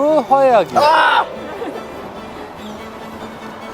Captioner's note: yell of horror-yo